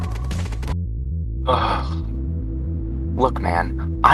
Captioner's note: groans in disappointment